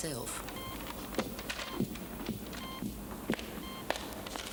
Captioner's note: machine beeping